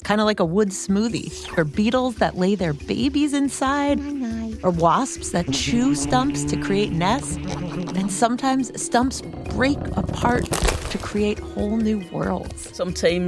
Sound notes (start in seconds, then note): 1.1 slurp!; 7.3 buzzing; 9.9 A big CRUNCH as the bark splits